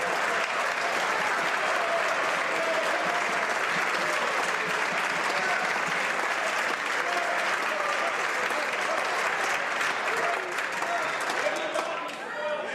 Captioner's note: some Applause